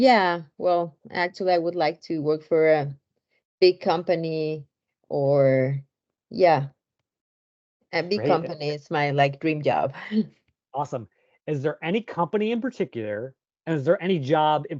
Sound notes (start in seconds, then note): 9.9 chuckles